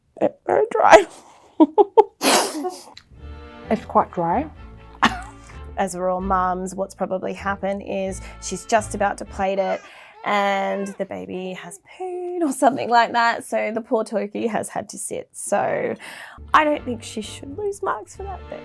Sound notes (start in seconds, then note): 1.6 giggles